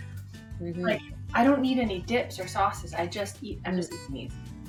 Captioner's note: none